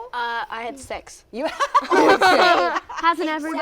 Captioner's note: laughter